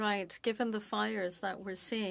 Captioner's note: speaking French